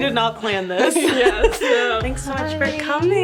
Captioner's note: both laughing